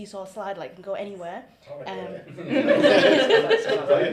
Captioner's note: laughter